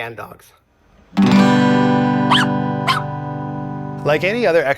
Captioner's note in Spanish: perro ladrando